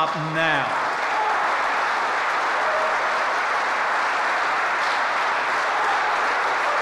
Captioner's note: applause